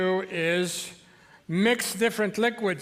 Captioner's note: none